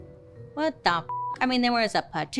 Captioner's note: beeps